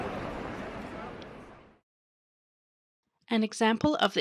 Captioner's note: sound of people talking in background fades out